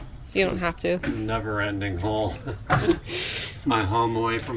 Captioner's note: laughing